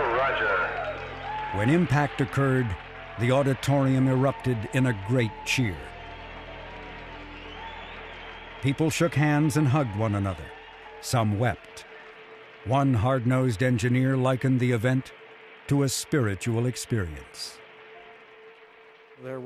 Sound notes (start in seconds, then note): 10.3 people clapping; 10.3 people whistling